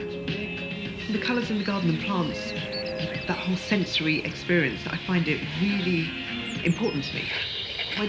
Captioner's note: radio audio